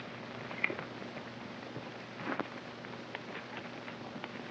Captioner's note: hooves clopping